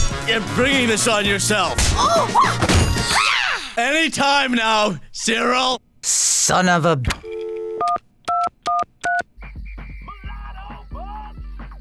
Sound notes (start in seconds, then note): 7.2 dial tones